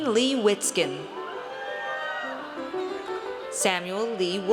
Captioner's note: audience cheers